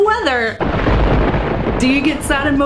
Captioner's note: thunder crash